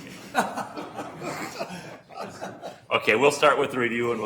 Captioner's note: laughing